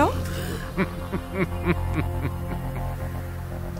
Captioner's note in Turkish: gülme sesi̇